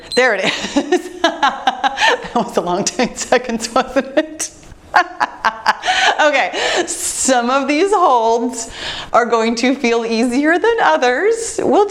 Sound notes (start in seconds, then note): 0.4 laughing; 5.4 laughing